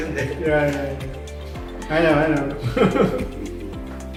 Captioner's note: laugh